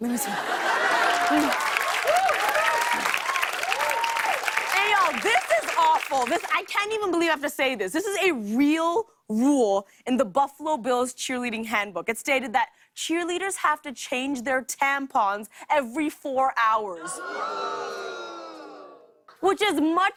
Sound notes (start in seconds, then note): 0.0 laughter and applause; 17.0 audience groans